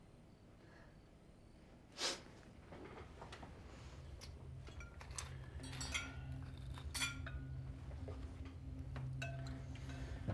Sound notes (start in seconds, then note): 1.9 Claire sniffs; 3.7 tense music; 4.6 cutlery clattering